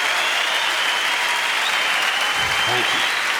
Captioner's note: clapping and cheering